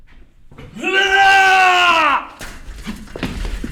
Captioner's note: shouting